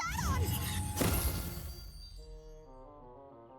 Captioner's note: pop